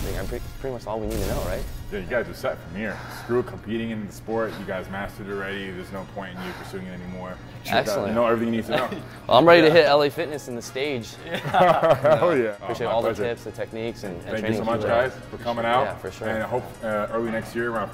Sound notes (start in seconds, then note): 11.1 chuckling